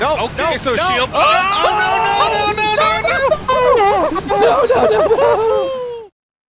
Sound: mass panicking

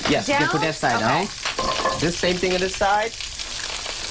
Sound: sizzling

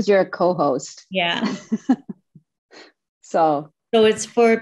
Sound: laughing

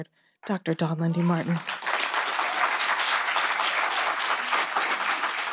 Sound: audience applauding

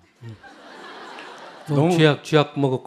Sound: audience Laughter

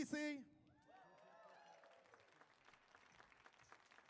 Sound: audience cheers

